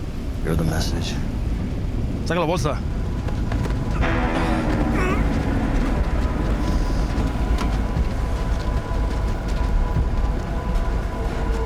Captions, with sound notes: You're the message. (Jimmy speaks in Spanish) (Tommy grunting)